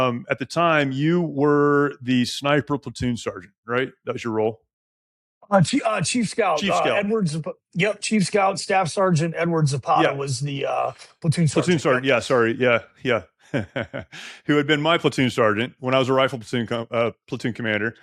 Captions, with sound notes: At the time, you were the sniper platoon sergeant, right? That was your role. Chief Scout, Edward Ziput. Chief Scout. Yep, Chief Scout, Staff Sergeant Edward Ziput was the platoon sergeant. Yeah, sorry. Yeah, yeah. (Laughs) Who had been my platoon sergeant when I was a rifle platoon commander.